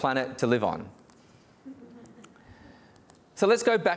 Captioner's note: audience laughing